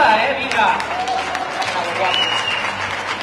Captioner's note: applause